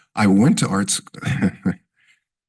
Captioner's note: chuckles